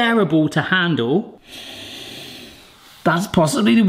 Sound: sniffs

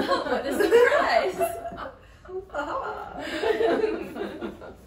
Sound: women laugh

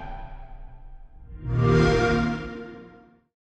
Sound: Xbox Sound

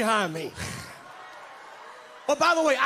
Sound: congregants cheer

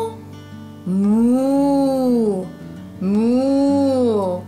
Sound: meows; moos

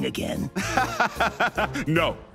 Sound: laughs

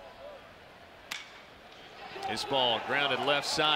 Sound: ball hitting bat

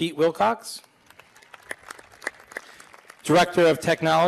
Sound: applause

